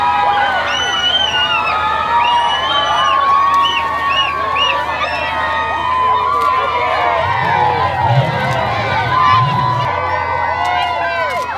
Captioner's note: cheering crowd